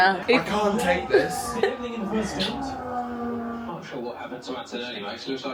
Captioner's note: laughs